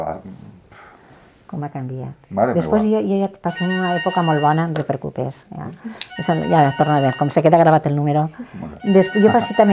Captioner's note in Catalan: Sona un telèfon